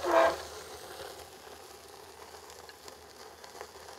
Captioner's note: steak sizzling